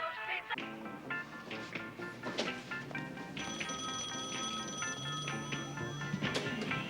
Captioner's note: phone ringing; upbeat music